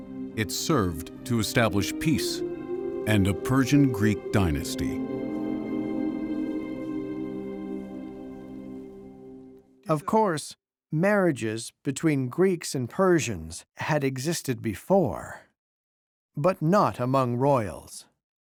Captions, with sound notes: It served to establish peace and a Persian-Greek dynasty. [in German] Of course marriages between Greeks and Persians had existed before. But not among royals.